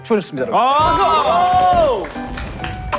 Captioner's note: fireworks; fanfare